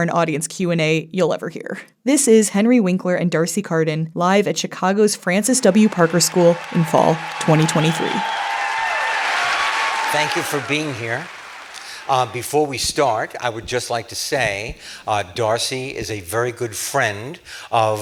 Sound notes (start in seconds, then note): 7.4 theme music plays; 8.4 audience applause